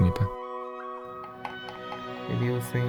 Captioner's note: tap- Tap